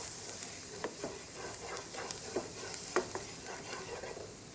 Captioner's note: pan sizzles